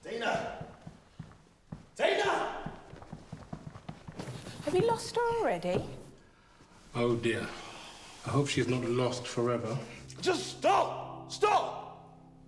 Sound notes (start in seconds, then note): 2.9 footsteps plodding